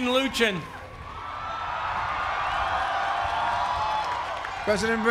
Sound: cheering

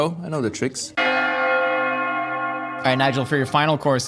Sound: bells Ringing

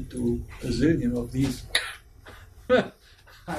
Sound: kkrrzk!

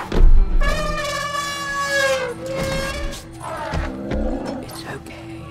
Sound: trumpeting, grunting; whispers

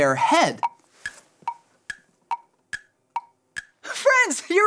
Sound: clock ticking

